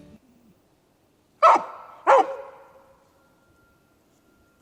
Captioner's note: dog barks